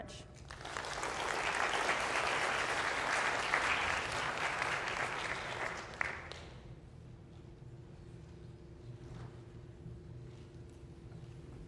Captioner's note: applause